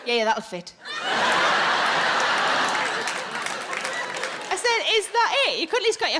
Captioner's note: audience laughing